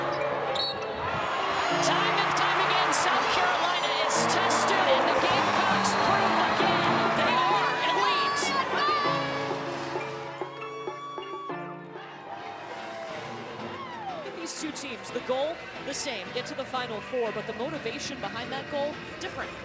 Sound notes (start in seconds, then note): 0.5 whistle